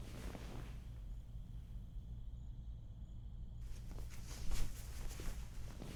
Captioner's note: bedding rustling; crickets chirping